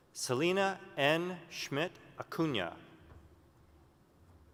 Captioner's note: none